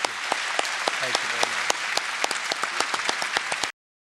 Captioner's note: applause